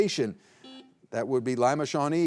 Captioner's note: buzzer buzzing